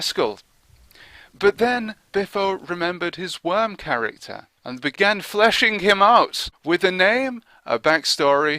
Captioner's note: ooh err